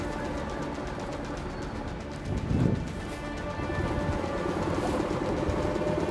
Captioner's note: motor droning; suspenseful music continues